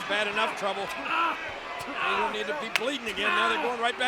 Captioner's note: John Cena shrieking